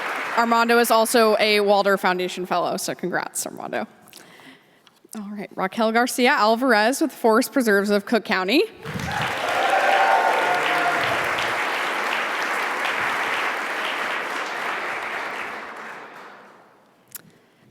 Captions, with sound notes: Armando is also a Walder Foundation fellow. So congrats Armando. Alright, Raquel Garcia Alvarez with Forest Preserves of Cook County. (audience applauding)